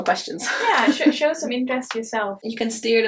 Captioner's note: chuckles